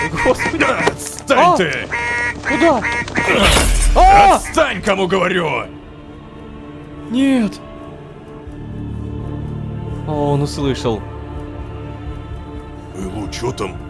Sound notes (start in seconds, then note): 0.0 goose in alarm mode